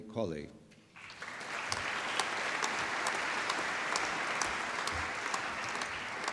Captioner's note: applause